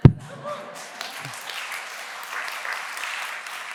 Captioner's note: applause